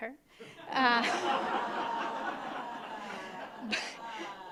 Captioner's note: audience laughing